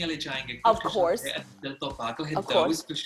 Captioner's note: speaking non-English language